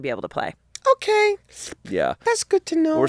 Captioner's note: slurps